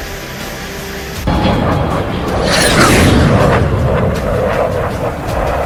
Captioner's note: jet engine roaring